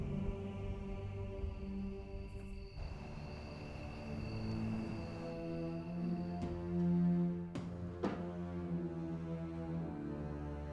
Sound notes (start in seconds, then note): 1.2 crickets chirping; 4.6 soft dramatic music